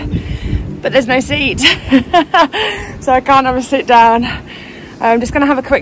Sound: laughs

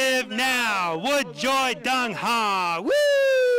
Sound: speaking in foreign language

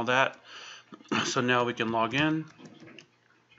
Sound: clears throat

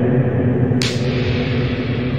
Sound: slow slap

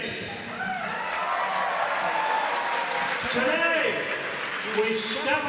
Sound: applause

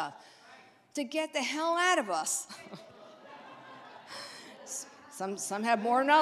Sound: audience laughs

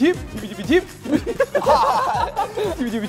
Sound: kekekekeke

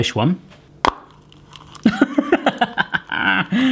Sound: laughing

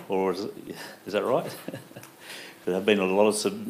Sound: laughs

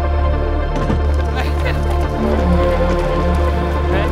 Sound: laughs

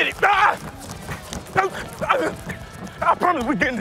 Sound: running sounds

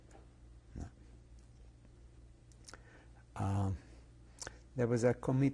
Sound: pauses for 3 seconds

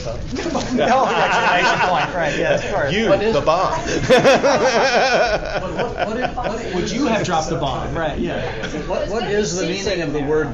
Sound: laughter

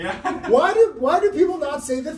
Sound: laughing

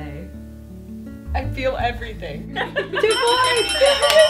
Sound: Colleen laughs

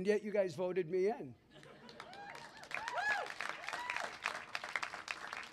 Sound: cheering, clapping

